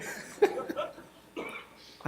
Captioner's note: laughter